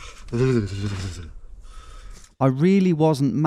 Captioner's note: shivering